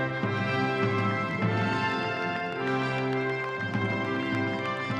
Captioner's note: audience applauding